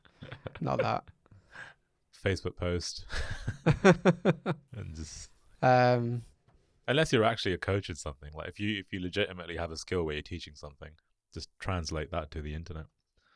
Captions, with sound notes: - Not that. - Facebook post. (laughs) Unless you're actually a coach or something like if you, if you legitimately have a skill where you're teaching something just translate that to the internet.